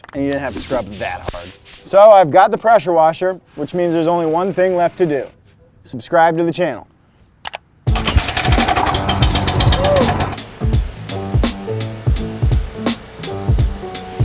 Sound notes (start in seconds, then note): 7.9 engine starting; 10.5 hip hop beat